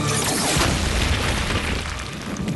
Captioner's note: explosion